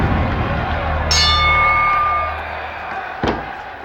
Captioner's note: bell dings